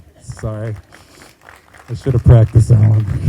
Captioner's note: group applauding